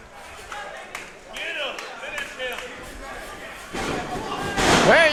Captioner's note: crowd shouting